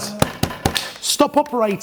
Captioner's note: thumping